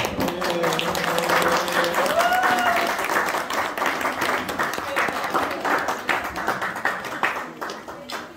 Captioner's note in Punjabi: ਤਾੜੀਆਂ